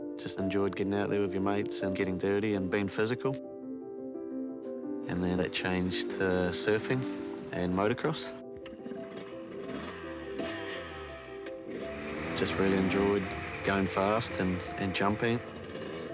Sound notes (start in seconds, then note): 8.6 engine sputters, revs